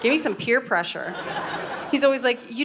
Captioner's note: audience laughing